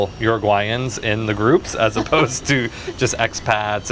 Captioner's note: laughing